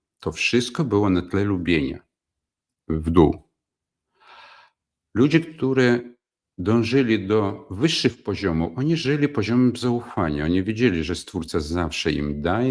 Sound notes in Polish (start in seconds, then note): 4.1 wciągnięcie powietrza; 4.2 westchnienie